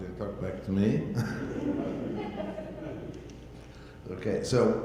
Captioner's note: audience laughter